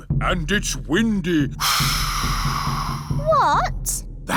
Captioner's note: blows air